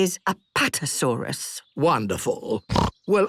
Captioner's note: snorts